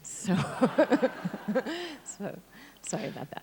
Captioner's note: audience laughs